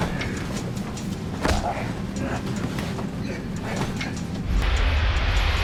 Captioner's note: airplane engines whirring